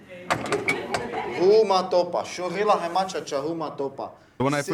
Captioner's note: speaking Lakota